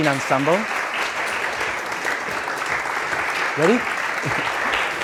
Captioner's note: audience applauds